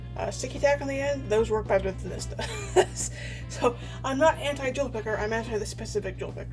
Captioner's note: laughs